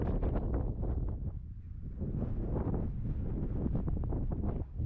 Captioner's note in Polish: Silny wiatr